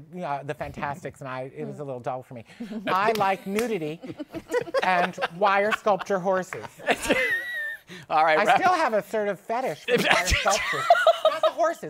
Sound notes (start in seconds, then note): 3.9 laughter; 6.4 laughs